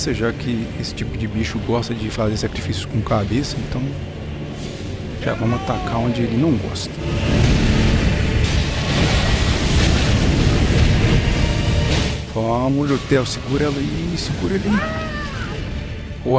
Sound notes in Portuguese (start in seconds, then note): 14.4 grito